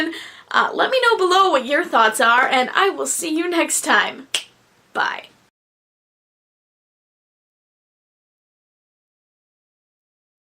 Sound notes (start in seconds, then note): 4.3 finger snaps